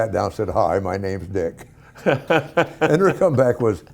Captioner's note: Ken Howard laughing